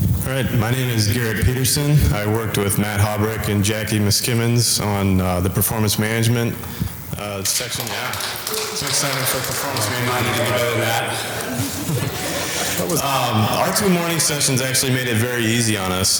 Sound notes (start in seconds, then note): 7.4 audience applause